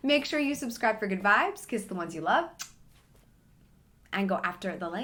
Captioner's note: lips smack